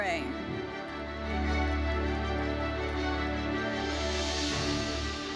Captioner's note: audience applauding; bright lively music continues